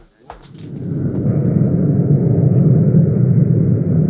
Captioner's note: airplane engine roaring